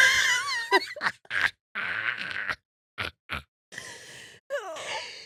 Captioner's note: laughing